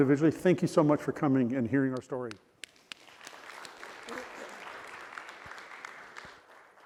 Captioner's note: applause